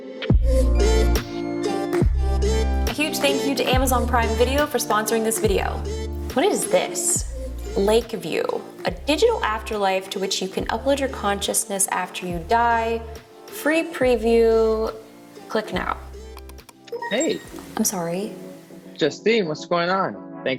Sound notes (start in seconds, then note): 0.2 techno music; 16.4 computer mouse clicking